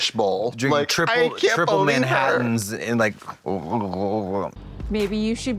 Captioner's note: gurgles